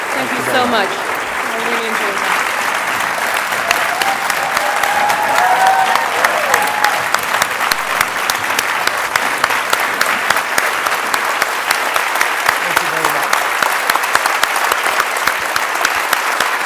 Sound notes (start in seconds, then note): 5.9 audience cheers, applauds